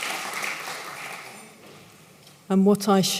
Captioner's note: applause